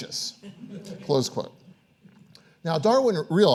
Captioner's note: audience laughing